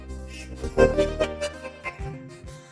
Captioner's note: laughing